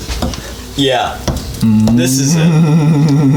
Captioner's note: spoon glops